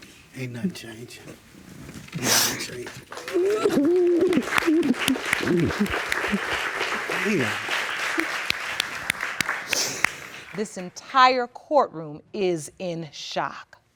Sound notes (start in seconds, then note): 2.2 audience applauds; 2.4 sniffles and sobs